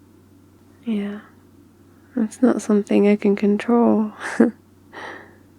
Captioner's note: laughs